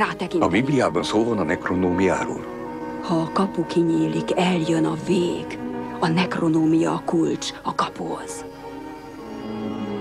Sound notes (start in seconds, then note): 5.6 whispering